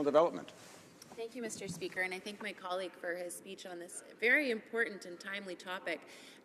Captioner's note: speaking french